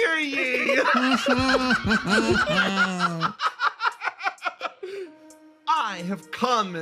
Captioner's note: laughs